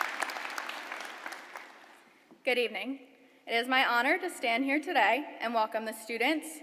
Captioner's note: applause